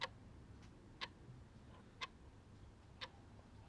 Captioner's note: none